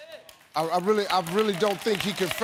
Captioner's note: audience applauding